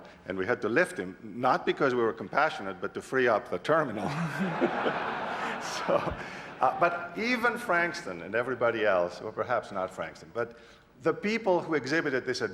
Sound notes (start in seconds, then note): 4.0 laughter